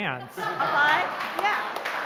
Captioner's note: laughter